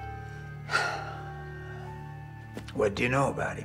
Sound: Josiah sighs

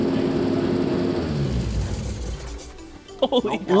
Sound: car engine turns off

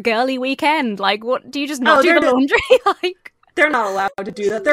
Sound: laughs

